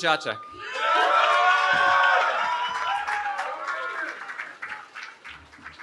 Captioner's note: cheering